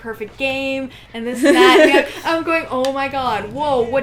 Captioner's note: laughter